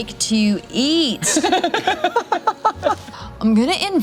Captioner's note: laugh